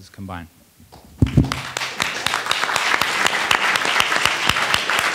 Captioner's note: attendees applauding